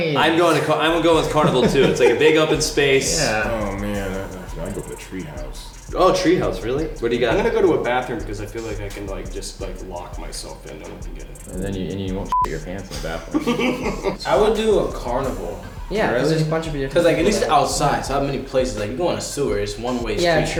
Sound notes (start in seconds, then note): 12.2 beep; 13.6 laughing